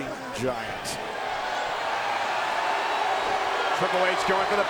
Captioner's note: audience cheers